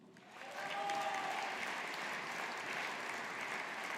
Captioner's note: audience applauding